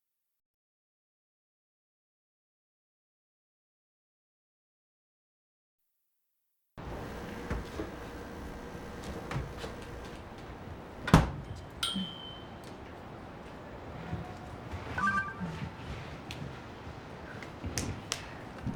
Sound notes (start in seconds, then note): 14.9 cell phone beeps